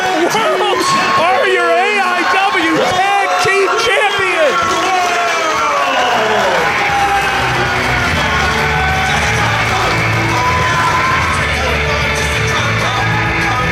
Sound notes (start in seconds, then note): 7.3 audience applauding; 7.3 audience cheering; 9.4 rock music